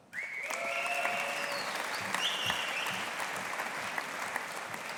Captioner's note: audience applauding